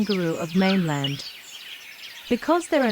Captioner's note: birds' chirping